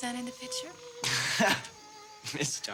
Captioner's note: Roger laughs